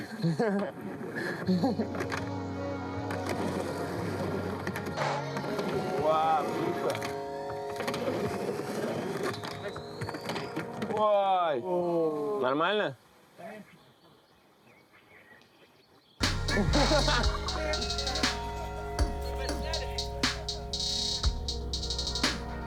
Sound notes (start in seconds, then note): 0.0 laughing; 1.8 the sound of skating; 8.9 the sound of falling; 16.3 starts laughing; 21.6 laughing